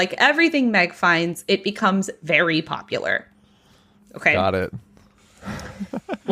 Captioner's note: laughing